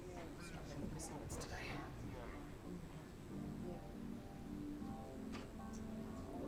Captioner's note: background chatter; gentle music